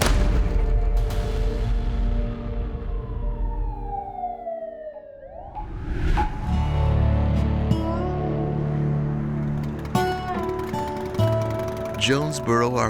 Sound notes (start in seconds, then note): 0.0 gun bang; 0.1 upbeat music; 2.8 siren wailing; 6.7 upbeat music